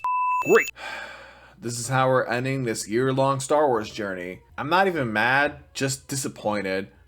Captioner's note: sigh